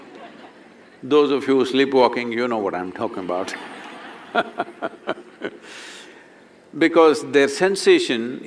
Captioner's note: laughter; laughter